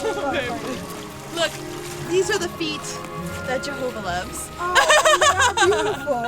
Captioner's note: laughter